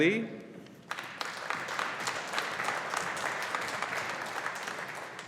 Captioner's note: audience applauding